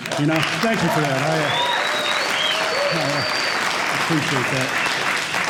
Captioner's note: applause; cheers and applause